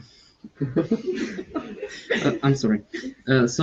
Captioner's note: all laughing